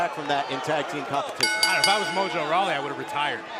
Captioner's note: bell ringing